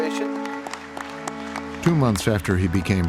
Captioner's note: applause